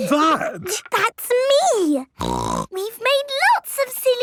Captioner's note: laughter; snorting